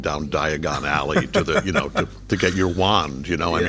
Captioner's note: laughing